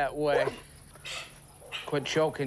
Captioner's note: dog wheezes